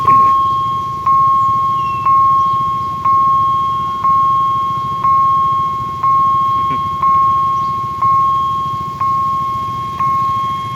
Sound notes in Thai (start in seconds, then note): 0.1 ติ๊งๆๆๆ; 6.1 ติ๊งๆๆๆ